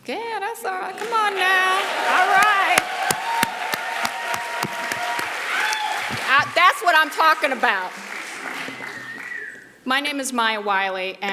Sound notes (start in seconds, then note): 1.6 audience applauding